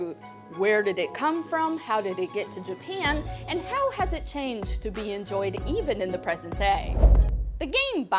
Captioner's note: transition whoosh